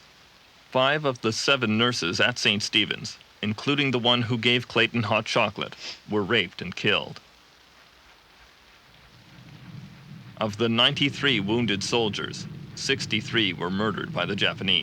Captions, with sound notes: At 3:00 pm, the British commanders officially surrendered to the forces of Imperial Japan. The union Jack was lowered. (men cheering)